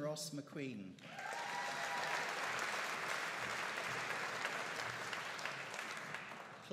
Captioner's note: audience cheering and applauding